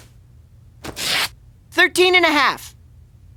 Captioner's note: ripping